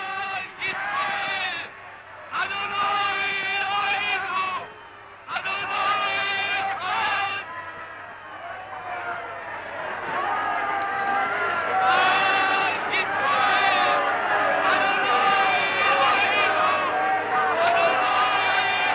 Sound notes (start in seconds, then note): 0.2 crowd foreign language; 12.0 crowd shouting